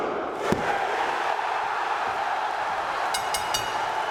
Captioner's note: crowd cheering